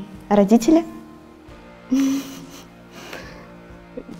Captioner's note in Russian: смех